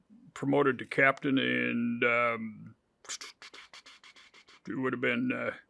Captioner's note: whistles